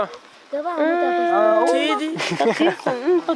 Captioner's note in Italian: voci di disappunto